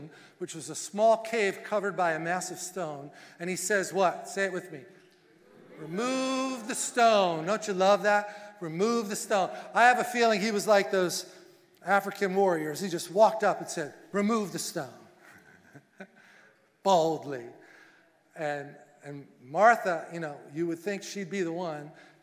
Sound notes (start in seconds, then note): 15.2 laughing